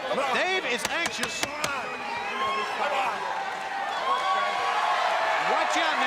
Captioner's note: crowd cheering